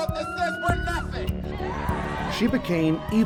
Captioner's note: crowd cheers